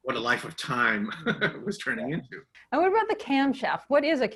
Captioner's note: laughs